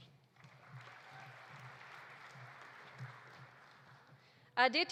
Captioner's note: audience applauding